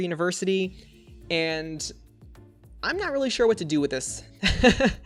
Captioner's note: laughs